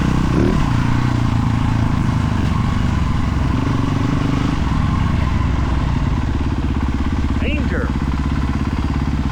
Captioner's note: engine revving